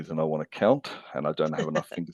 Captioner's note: laughs